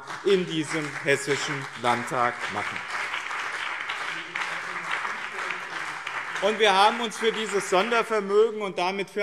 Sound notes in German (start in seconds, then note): 3.0 Beifall